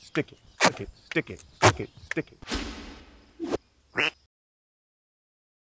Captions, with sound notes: Stick it. Slick it. Stick it. Slick it. Stick it. [QUACK]